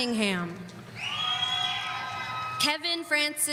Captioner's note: audience cheering